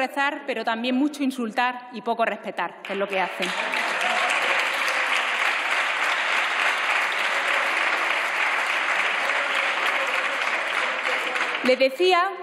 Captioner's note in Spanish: Aplausos